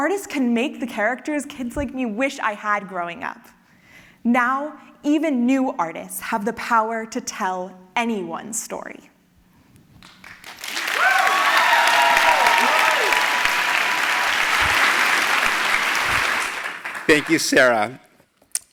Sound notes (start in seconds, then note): 10.0 applause